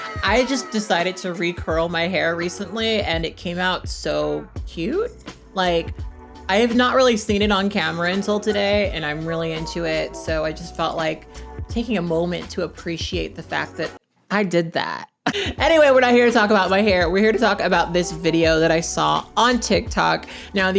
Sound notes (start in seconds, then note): 15.3 chuckles